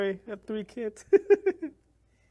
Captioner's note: laughs